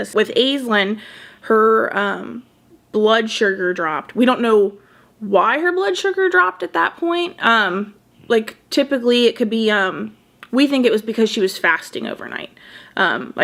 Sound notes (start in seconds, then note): none